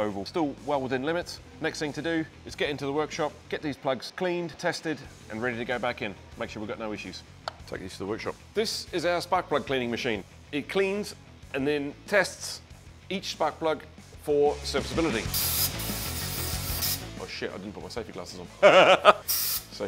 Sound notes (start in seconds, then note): 15.5 machine whirs; 18.6 chuckles